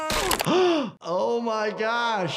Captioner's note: bones cracking; gasping